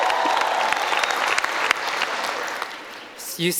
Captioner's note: audience cheering